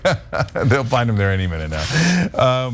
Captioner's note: laugh